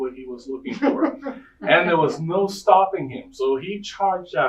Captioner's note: audience laughing